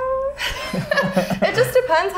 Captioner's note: laughing